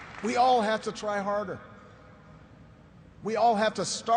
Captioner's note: applause